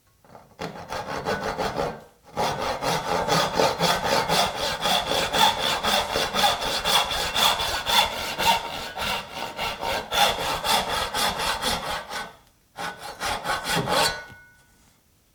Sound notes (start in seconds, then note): 2.3 saw on wood rhythmically rasping